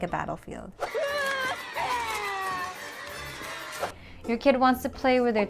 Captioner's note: children screaming